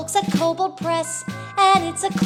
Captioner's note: ding Dong